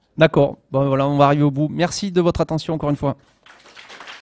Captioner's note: applauses